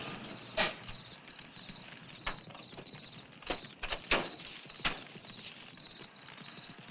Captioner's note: insects chirping; fire crackling